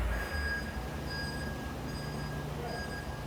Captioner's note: back-up alarm beeping